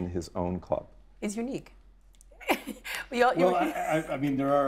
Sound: laughing

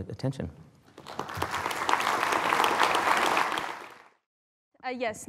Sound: applause

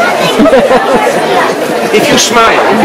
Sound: laughs

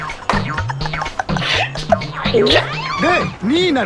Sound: laughs

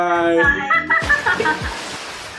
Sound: laughs

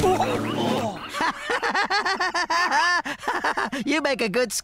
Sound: Spud Laughing

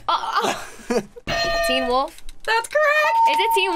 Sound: laughs; bell rings

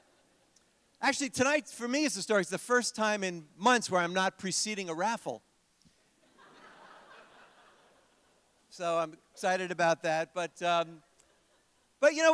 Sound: laughter

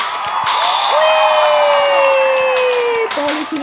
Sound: clap

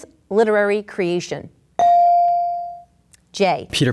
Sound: ding

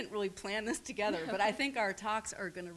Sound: laughs

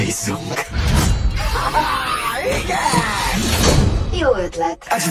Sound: laughs

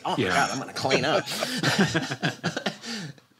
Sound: laughter

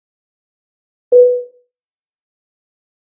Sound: sound of seatbelt tone

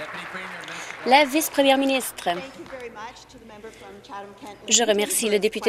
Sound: applause

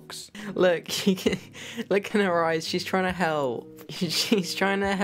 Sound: laughs

